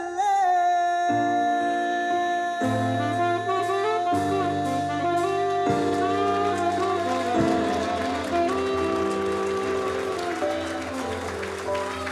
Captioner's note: applause